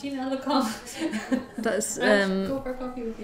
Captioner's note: laughs